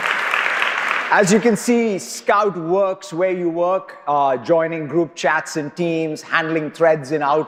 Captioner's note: applause